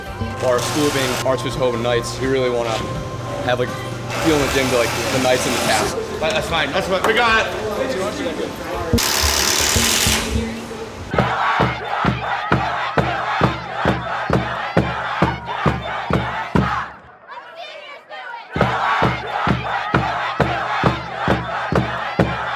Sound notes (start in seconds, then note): 8.2 rattling; 16.4 drums banging; 21.2 drums banging